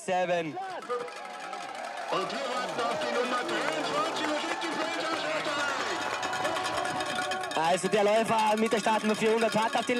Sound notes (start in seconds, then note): 1.4 announcement in german; 1.4 cheering; 8.5 speaks german